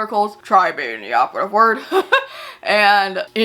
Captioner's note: chuckles